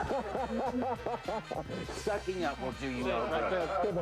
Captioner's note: laughs